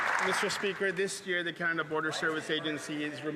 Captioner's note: applause